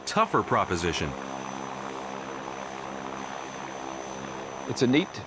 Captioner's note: engine humming